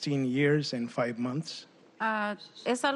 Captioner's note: speaking spanish